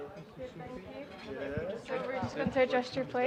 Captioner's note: general chatter